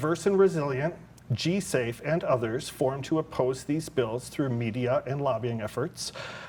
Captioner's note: none